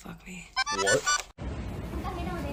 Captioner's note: upbeat music; beeping